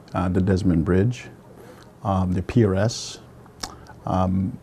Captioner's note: none